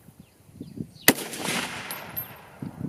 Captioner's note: gun fires